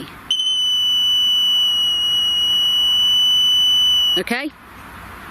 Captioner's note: device sounds long chirp